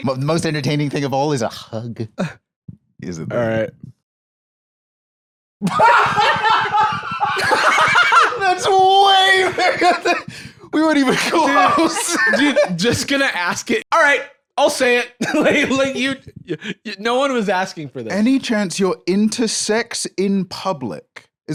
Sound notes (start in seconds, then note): 5.6 both laughing; 10.8 laughing